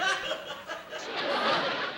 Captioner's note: laughter